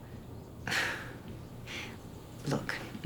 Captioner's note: scoffing